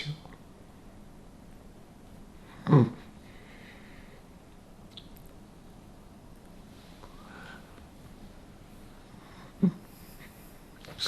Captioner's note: pauses 10 seconds